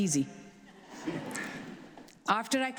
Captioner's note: audience laughs